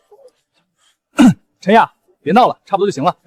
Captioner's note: cough